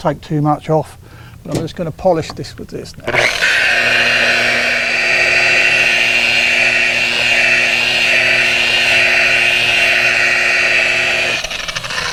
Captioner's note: machine whirring